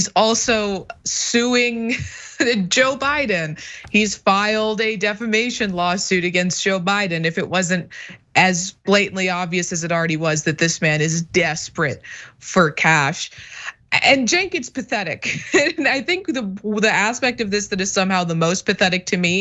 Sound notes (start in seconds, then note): 0.4 laugh; 15.2 laugh